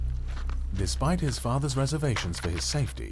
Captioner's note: voiceover